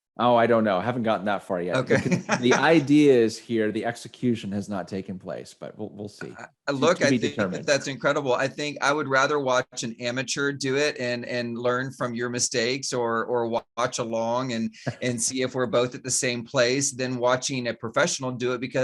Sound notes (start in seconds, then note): 1.7 laughs; 14.6 laughs